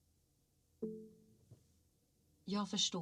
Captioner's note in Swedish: Systemet klickar